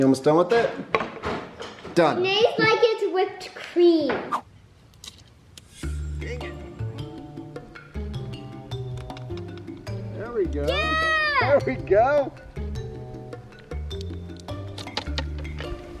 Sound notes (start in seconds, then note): 4.3 air whooshing; 4.3 pebble whizzing; 7.4 lively music; 11.7 gentle music; 13.3 gentle music